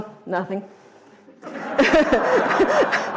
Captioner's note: audience laughter